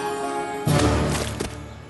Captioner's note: heavenly chorus; splat